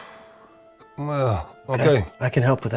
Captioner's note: exhales